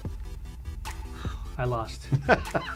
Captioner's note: sigh; laughs